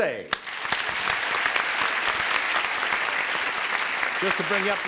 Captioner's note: cheers and applause